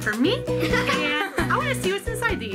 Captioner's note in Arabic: يضحك